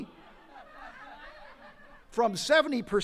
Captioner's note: attendees laughing